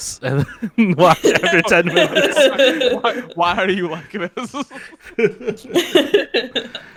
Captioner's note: laughing